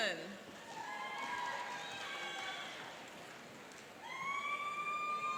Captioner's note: cheering and applauding